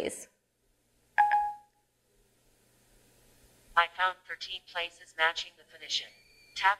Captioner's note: audio from phone